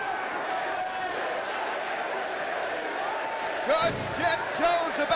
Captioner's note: crowd chants "Sid"